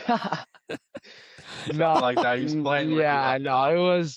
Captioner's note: laughter